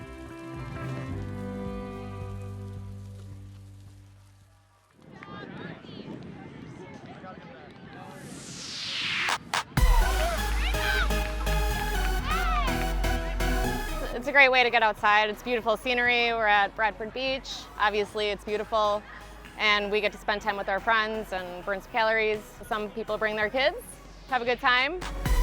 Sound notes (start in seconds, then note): 9.2 beach crowd chattering; 13.1 upbeat energetic music